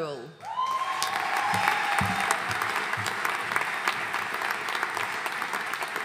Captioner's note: audience cheering and applauding